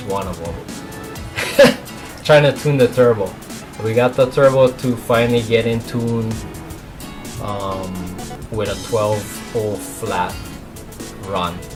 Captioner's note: laughs